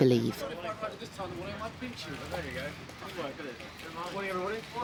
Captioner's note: reporters chattering